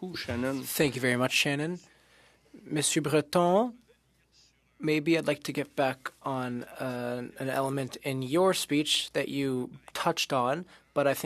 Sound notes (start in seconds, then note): 6.0 speaking French